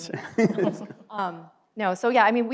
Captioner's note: laughs